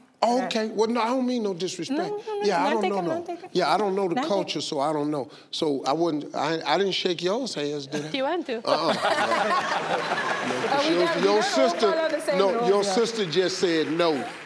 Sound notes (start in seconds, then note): 8.7 audience laugh